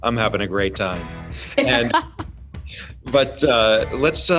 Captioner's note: laughing